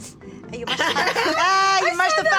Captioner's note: laughter